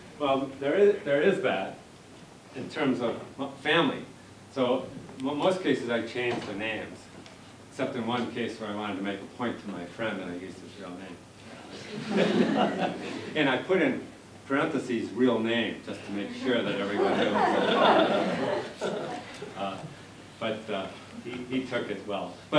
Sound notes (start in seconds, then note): 11.7 laughter; 19.6 laughter